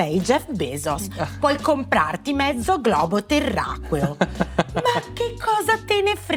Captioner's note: laugh